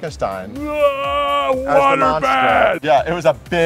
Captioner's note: he groans